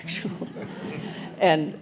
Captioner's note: audience laughs